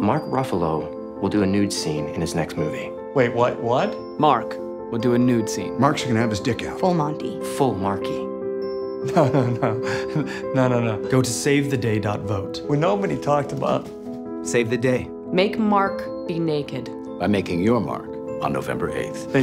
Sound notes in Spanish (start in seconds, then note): 9.0 Risas